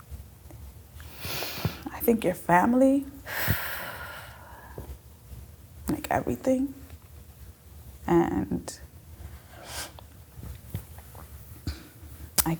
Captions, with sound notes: I think your family, (exhale) like everything, and